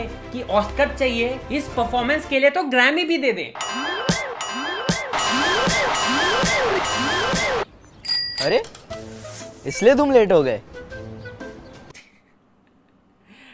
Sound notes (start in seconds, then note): 8.0 cycle horn go tring tring